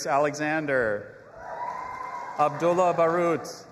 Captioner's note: audience applauding and cheering